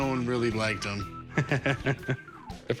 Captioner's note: laughs